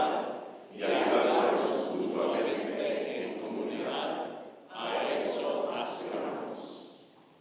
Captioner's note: congregation speaking in foreign language